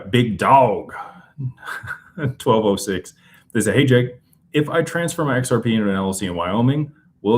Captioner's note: laughter